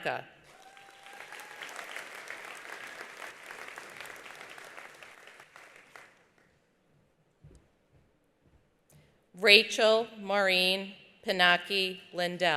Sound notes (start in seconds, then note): 0.4 attendees applauding; 0.5 attendees cheering